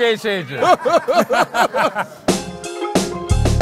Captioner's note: laughter